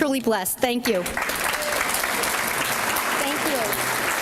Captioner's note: applause